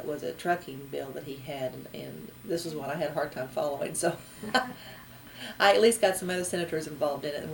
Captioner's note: laughs